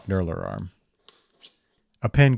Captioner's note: tool clanking